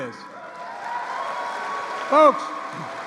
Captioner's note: applause